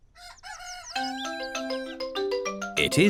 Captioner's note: cockerel crows